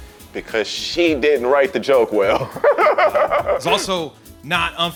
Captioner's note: laughing